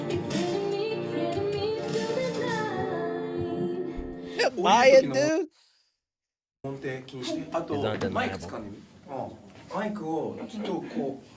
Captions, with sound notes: You're feeling me, feeling me through the night Why it, dude? (speaking in foreign language)